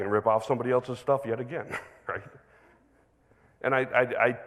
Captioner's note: chuckles